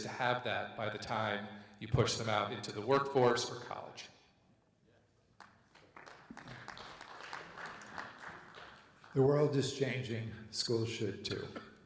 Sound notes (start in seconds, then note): 5.3 audience members clapping